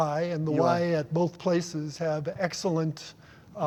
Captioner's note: none